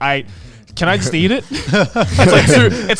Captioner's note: group laughs